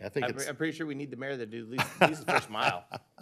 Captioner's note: laughter